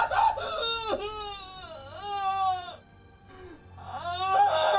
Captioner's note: wailing